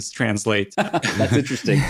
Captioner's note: all laugh